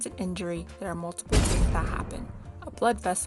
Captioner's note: crashing sound